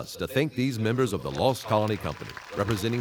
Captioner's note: audience applauding